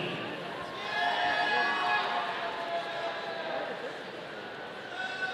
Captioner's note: audience cheering